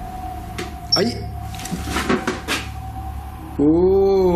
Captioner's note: beeps